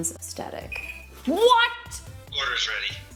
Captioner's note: beep